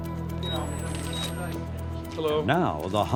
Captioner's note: beep sound; camera clicking